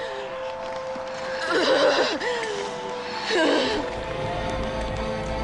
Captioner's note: gasping